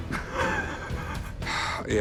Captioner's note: laughs